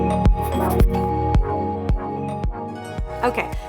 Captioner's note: logo scribbles